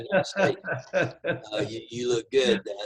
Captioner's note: laughter